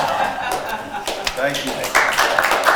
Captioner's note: attendees laughing; hands clapping